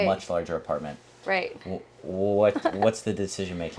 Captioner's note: chuckling